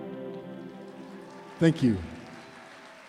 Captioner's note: applause, cheering